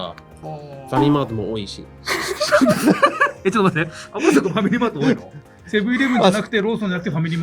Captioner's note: laughs